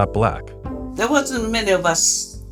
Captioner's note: soundbite of archived recording